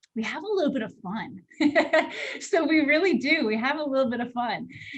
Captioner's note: laughter